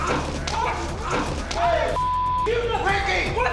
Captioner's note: shouting